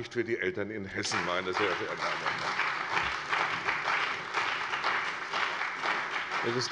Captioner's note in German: Lebhafter Beifall bei der CDU und dem BÜNDNIS 90/DIE GRÜNEN